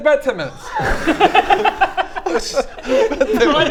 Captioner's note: laughter